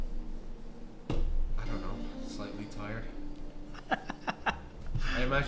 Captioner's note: snickering